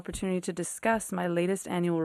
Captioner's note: speaking FRENCH